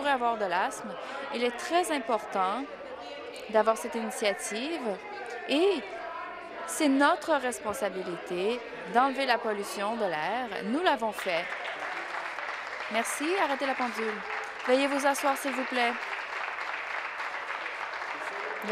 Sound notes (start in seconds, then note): 14.5 applause